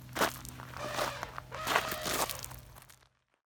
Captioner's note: elephant trumpeting